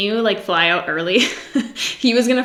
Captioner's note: giggles